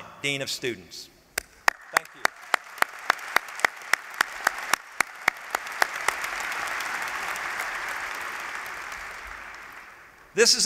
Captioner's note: applause